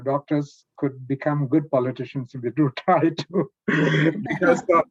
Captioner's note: laughs